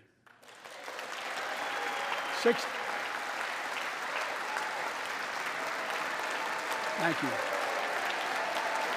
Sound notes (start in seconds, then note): 0.2 applause